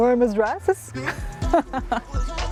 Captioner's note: laughs